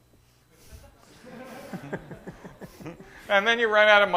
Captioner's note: laughter